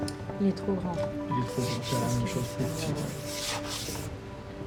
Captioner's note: both speaking French